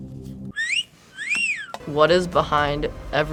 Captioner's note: whistles